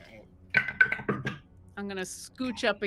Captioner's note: wood blocks topple